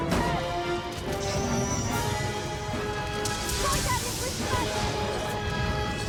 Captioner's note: dramatic music; dragon rumbling